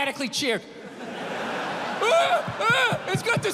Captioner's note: crowd laughs